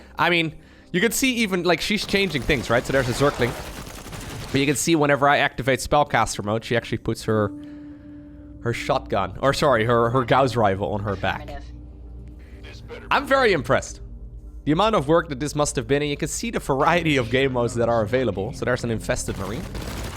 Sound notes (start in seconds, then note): none